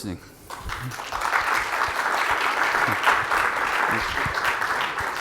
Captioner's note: audience applauds